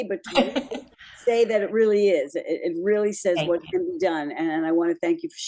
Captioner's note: laughs